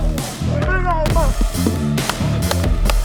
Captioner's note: muffled cheering; player clapping